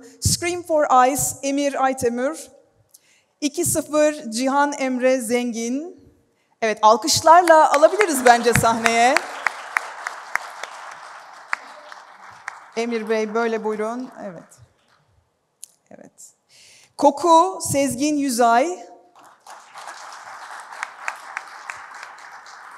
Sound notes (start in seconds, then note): 9.8 applause; 19.1 applause